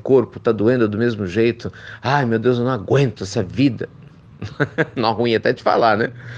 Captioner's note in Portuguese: risos